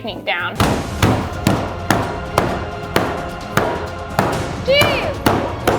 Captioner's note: dramatic music; wood bangs